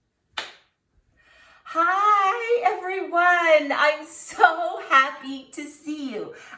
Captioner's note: clap